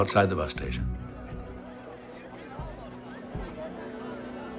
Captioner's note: people talking